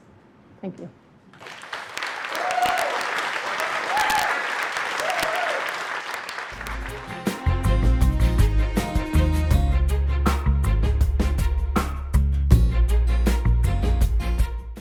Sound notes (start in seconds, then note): 1.3 applause and cheering